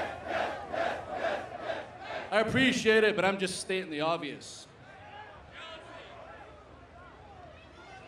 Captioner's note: crowd chanting